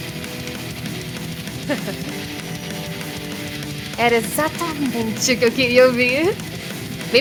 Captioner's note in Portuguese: risada